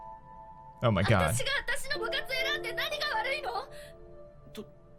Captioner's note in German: japanische Sprache